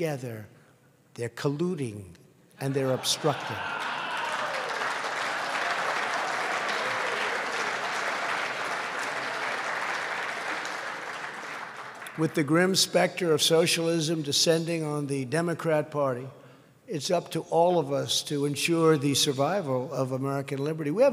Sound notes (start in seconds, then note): 2.2 laughter; 10.1 applause